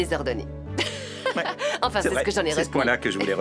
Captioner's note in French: rire